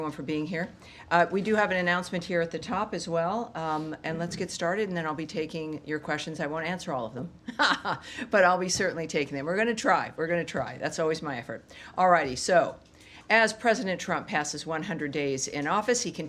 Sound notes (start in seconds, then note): 7.4 laughter